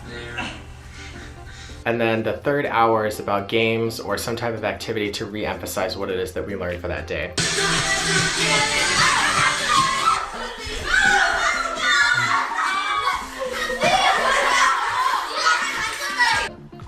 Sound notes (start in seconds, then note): 7.4 upbeat Korean pop music; 10.5 students yelling and laughing